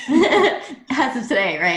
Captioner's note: she laughs; they laugh